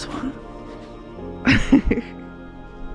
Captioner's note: chuckle